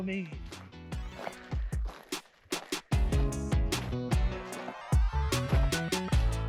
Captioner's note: upbeat music; footsteps crunching